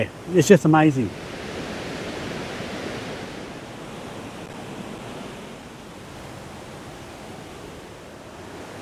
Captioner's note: rushing water